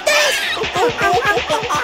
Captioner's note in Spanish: motor y golpes